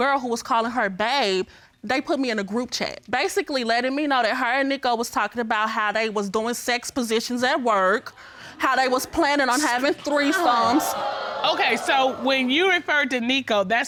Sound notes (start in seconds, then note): 10.1 audience gasps